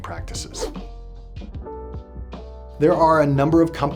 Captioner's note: whooshing